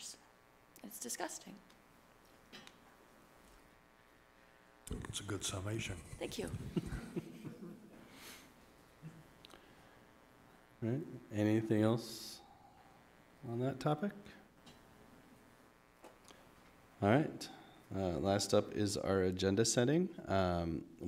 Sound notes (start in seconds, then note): 7.3 everyone chuckling